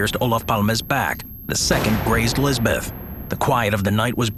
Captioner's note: gun fires